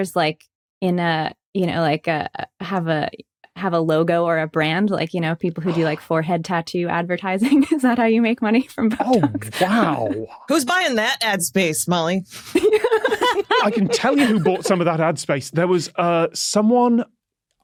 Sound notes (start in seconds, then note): 12.4 guests laughing